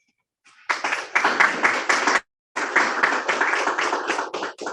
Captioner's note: listeners applauding